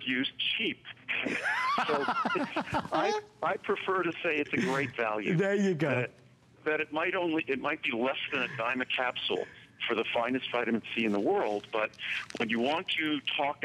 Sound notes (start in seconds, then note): 1.1 laughter